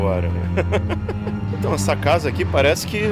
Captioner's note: laughter